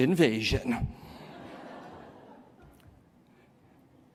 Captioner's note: laughter